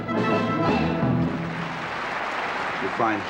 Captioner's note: applause